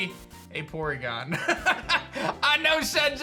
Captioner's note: laughs